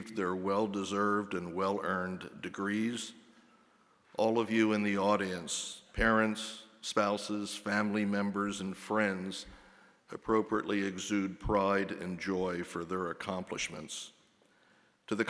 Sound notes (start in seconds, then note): none